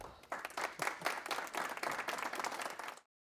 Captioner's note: applause